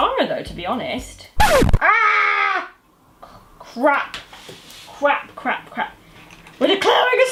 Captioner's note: record scratch sound effect